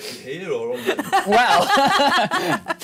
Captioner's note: laughing